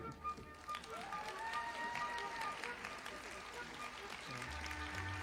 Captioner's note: audience applauding